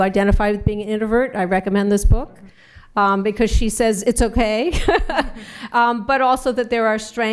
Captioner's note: laughs